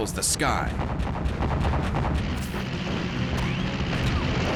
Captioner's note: flak fire